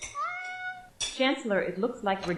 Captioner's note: cat meowing